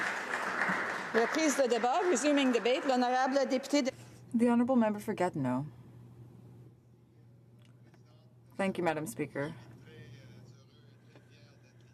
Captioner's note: applause